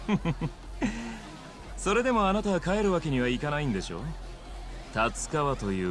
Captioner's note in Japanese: 笑い